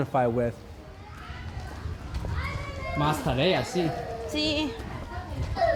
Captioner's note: children shouting; baby crying